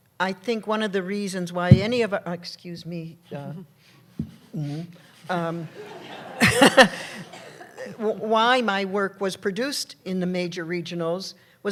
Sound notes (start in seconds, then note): 1.6 microphone pops; 5.6 laughter